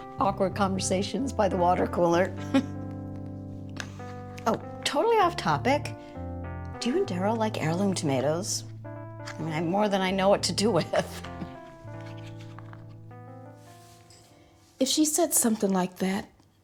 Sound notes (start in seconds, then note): 2.4 laughing; 11.2 chuckling